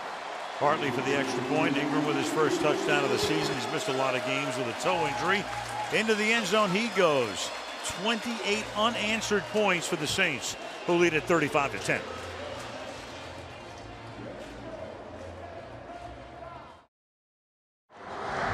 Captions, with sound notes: Mm, Hartley for the extra point. Ingram with his first touchdown of the season. He's missed a lot of games with a toe injury. Into the end zone he goes. 28 unanswered points for the Saints who lead at 35 to 10. [pa announcement]